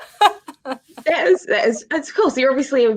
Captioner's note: woman laughing